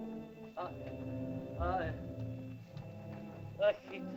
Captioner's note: soft dramatic music; man groans